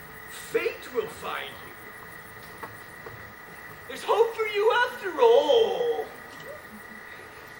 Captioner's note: mocking